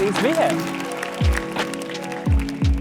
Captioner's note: audience applauding; upbeat music